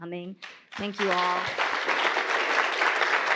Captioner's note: audience applauding